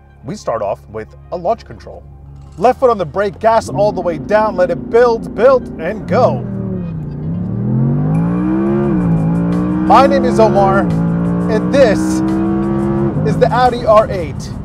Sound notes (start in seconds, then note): 7.5 engine revving